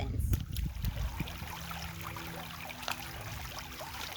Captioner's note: water flowing